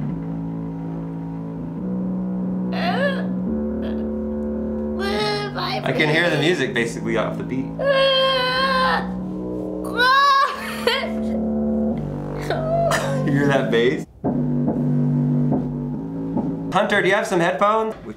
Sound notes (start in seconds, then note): 0.2 bass heavy music; 8.2 groaning